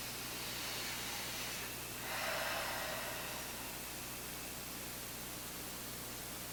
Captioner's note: both exhaling; both inhaling